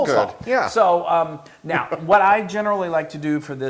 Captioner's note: laugh